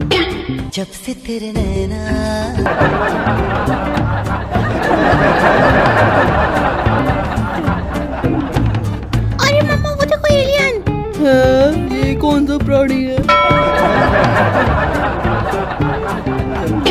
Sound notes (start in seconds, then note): 2.6 chuckles; 13.6 chuckles